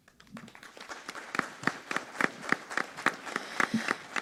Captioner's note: applause